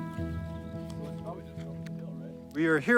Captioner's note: crew chattering faintly